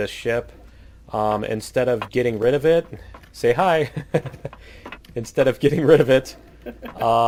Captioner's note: laughs